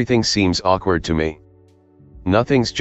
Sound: awkward pause

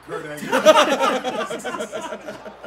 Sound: laugh

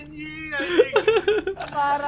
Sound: laugh

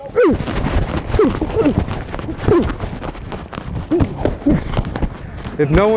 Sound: grunting

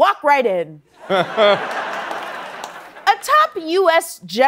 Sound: laughter

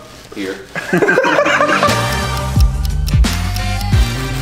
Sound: guys laughing

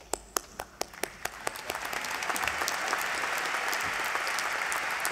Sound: applause

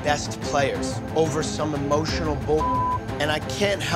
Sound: beep

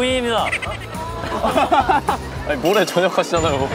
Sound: laughing

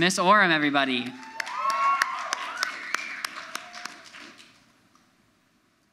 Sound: audience applauds

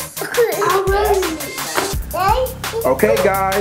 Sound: laughs

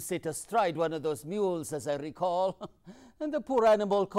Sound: laughs

